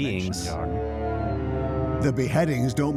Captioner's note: howling